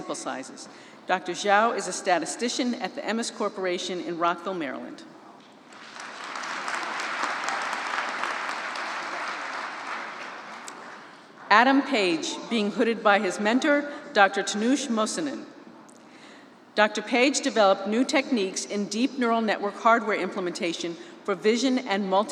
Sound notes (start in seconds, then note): 11.7 applause